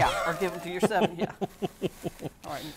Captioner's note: laughing